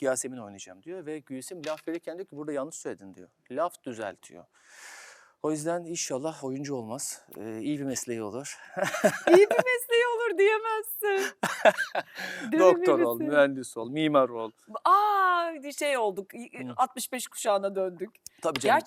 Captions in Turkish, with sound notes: Yasemin oynayacağım diyor ve Güsim laf verirken diyor ki burada yanlış söyledin diyor. Laf düzeltiyor. O yüzden inşallah oyuncu olmaz. iyi bir mesleği olur. [kahkaha] İyi bir mesleği olur diyemezsin. Doktor ol, mühendis ol, mimar ol. Aa şey olduk. 65 kuşağına döndük.